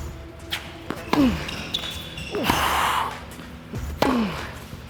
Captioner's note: ball thumping; grunting